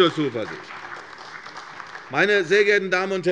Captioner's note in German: Beifall bei der CDU und dem BÜNDNIS 90/DIE GRÜNEN